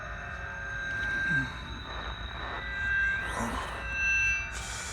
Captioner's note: groaning